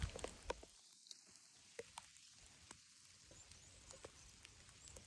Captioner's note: raindrops falling